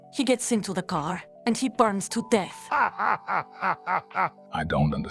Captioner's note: laughing hysterically